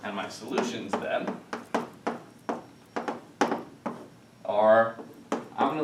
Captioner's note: chalk tapping